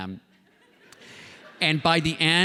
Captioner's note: laughter